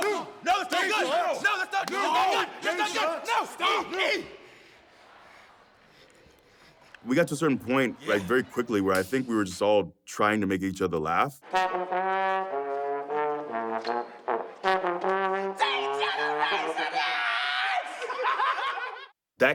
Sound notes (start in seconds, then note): 5.3 applause; 14.9 laugh